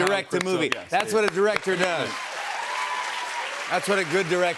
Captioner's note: cheers and applause